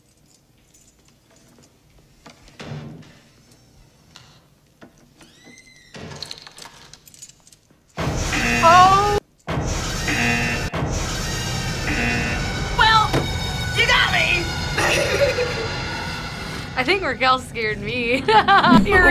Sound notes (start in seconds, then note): 2.5 door squeaks; 9.8 buzzer; 14.8 laughs; 18.0 laughs